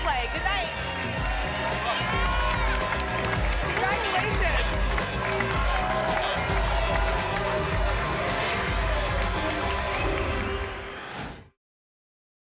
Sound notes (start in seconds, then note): 1.5 applause and cheering cont; 5.0 applause and cheering cont; 9.8 whoosh